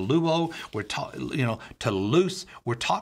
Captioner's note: speaking Greek